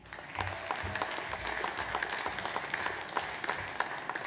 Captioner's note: audience applauds